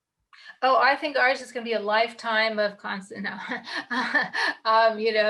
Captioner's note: laughs